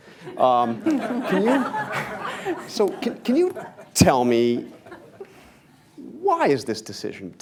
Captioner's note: laughter